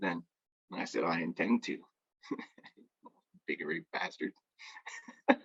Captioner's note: laughs